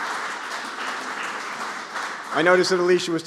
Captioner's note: applause